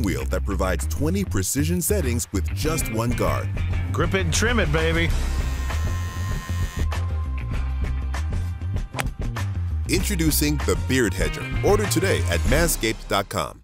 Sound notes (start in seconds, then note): 5.2 Beard Hedger buzzing; 6.6 funky rock music; 8.9 golf club thwacking